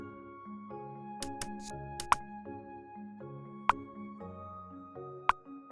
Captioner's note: calm music; click sound